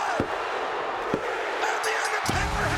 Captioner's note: crowd cheering